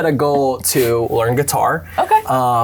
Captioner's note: laughing